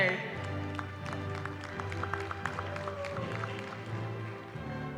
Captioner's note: applause